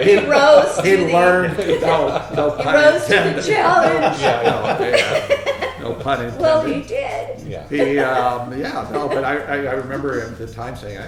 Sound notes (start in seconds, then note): 0.0 all laughing